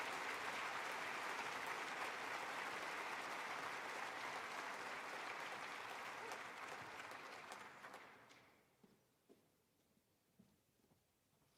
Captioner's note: applause